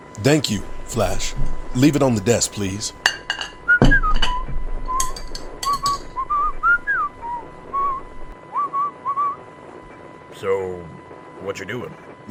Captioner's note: whistle